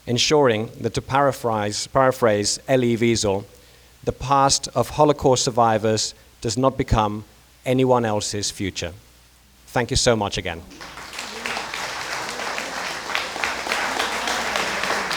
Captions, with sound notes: Insuring that to paraphrase Elie Wiesel, the past of Holocaust survivors does not become anyone else's future. Thank you so much again. (crowd clapping)